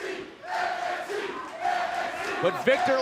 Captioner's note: fans chanting